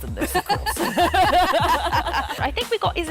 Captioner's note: laughter